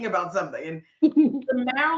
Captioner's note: chuckling